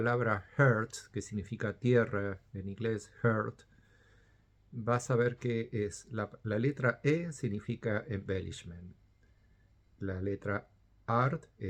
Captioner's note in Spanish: en español